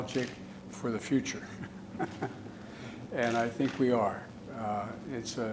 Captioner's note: laughs